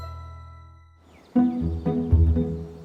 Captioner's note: birds chirping; upbeat music